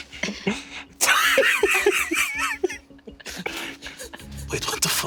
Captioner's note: Lou laughing